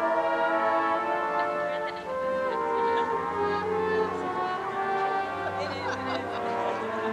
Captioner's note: laughs